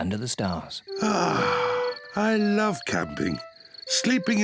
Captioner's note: sighs